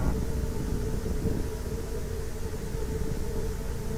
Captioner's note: wind howling